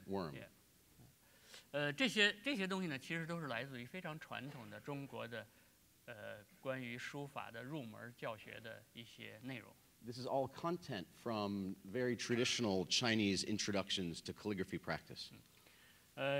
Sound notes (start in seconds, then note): 5.1 speaking in Chinese